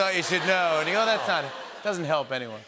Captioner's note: laughter